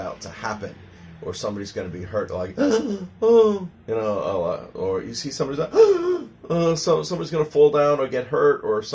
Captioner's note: gasping sound